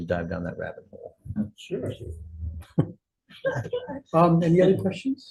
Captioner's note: chuckles